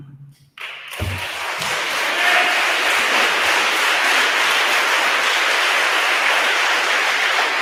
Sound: attendees applauding; attendee cheers

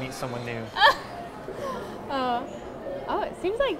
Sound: laughs

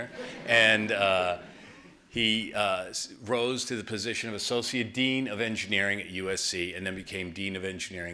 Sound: laughter

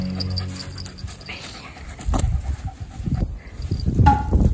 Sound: breathing

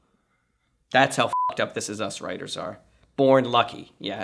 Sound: beep

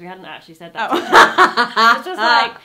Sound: laughing

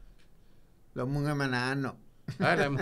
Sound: laughing

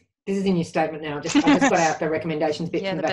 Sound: laughs

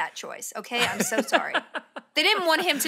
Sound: laughs

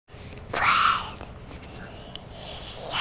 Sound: whispers

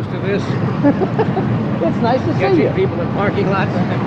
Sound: laughs

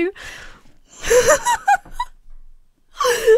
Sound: laughs

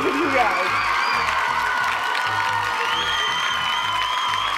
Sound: cheers and applause

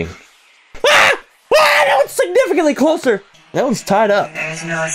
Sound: scream

